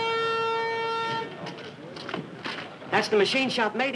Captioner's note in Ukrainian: гримить тон